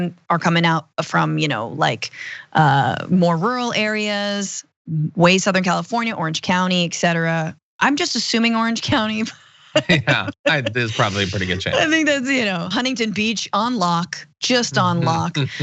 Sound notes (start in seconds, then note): 9.7 laugh